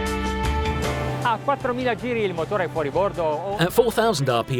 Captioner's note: speaking Italian